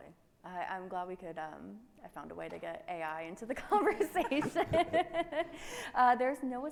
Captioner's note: laughing